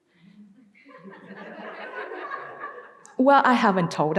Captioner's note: audience laughing